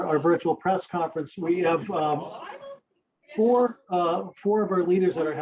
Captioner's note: people talking